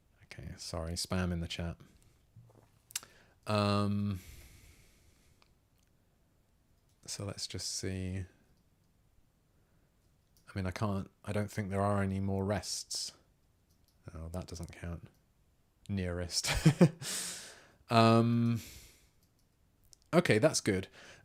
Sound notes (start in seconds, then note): 17.3 laughs